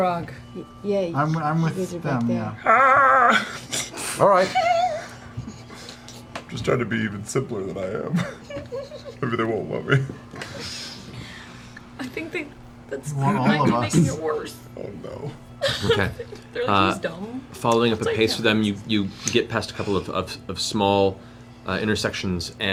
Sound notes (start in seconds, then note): 2.6 exclaims